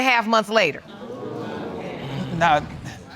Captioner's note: audience murmuring